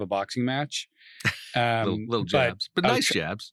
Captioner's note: laughs